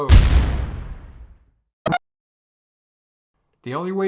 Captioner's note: mock Explosion